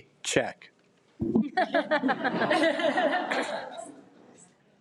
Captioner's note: audience laughs